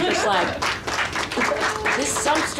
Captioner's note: audience applauding